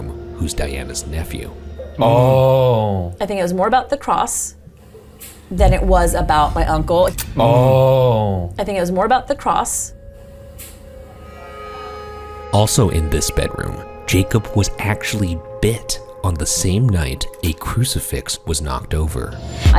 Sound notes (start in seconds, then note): 5.2 house creaks; 10.5 house creaks